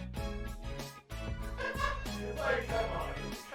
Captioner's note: laughter